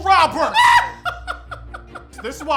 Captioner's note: laughing